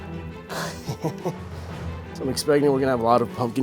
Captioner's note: laughs